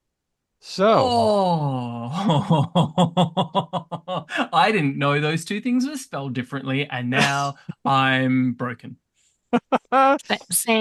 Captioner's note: laughs